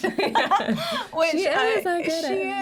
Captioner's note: laugh